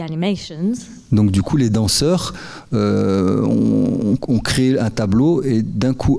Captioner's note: speaking in French